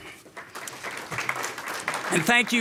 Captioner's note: audience applauding